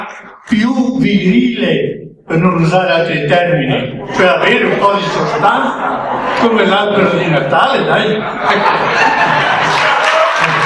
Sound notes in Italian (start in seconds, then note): 9.2 Applauso